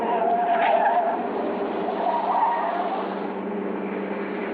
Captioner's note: tires screeching